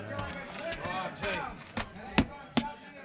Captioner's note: chatter